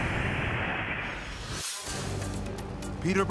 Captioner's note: dramatic whoosh